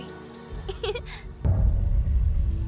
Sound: giggles

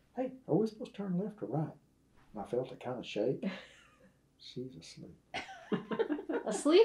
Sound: laughter

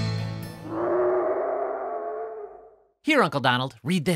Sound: roaring

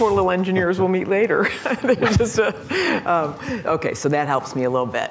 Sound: laughter

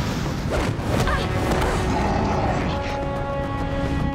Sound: grunting

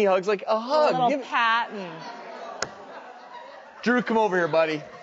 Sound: audience laughs

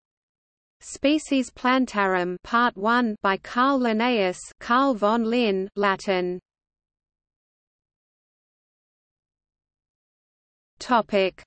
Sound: Latin

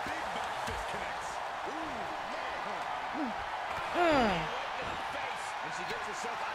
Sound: applause

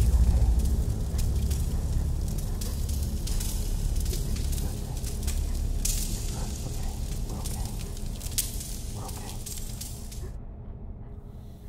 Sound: fire crackling

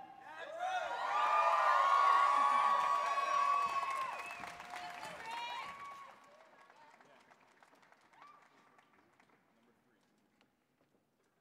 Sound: cheering

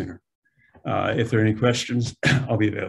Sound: clears throat

